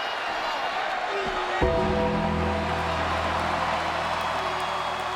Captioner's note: bells chiming